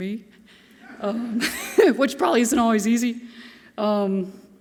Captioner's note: chuckles